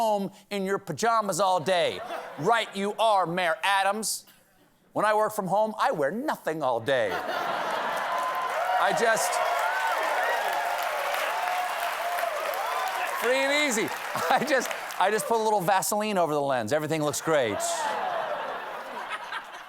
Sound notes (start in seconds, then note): 6.8 cheers and applause; 7.0 laughter